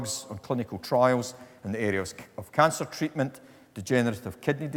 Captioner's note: none